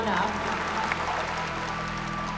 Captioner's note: applause